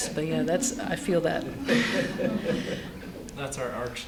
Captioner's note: laughter